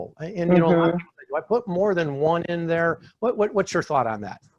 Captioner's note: speaking faintly